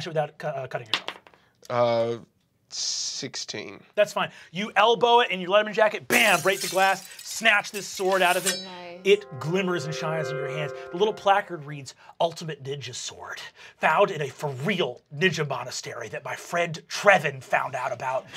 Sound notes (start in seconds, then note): 1.5 die clatters; 6.1 glass breaking